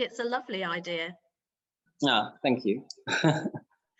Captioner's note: laughs